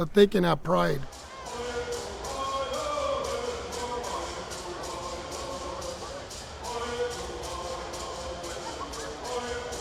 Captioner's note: bird Songs with Crowd Sounds